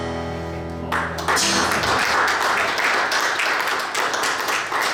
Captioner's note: audience applauds